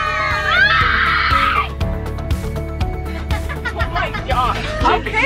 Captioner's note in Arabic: صبي يصرخ